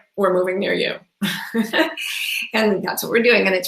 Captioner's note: laughs